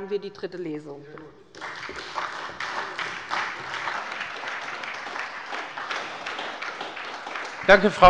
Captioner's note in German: Beifall bei der SPD